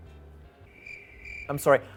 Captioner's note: crickets chirping